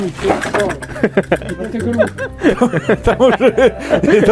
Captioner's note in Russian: смех